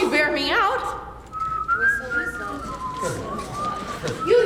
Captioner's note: whistling